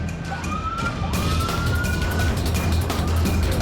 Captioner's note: dramatic music plays; siren wailing